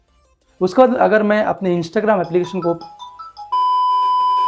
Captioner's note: phone ring in background